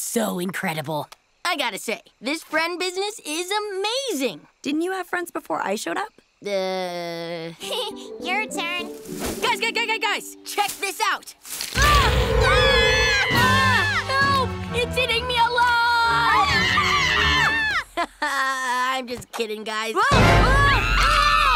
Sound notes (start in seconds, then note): 7.5 giggles; 11.8 both screaming; 15.8 screaming